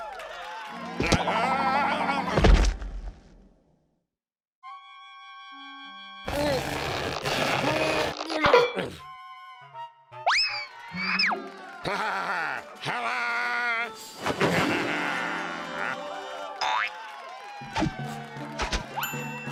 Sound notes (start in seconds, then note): 0.0 cheers and applause; 2.4 thud; 6.3 straining; 14.4 cheers and applause